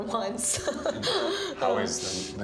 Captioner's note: laughs